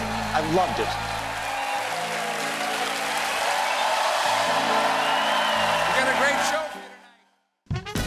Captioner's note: cheers and applause